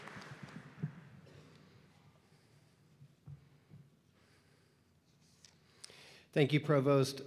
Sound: applause

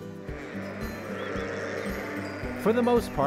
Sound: sheep bleating

